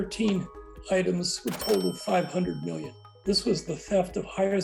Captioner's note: bell ringing